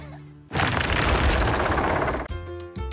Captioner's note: rocks Clatter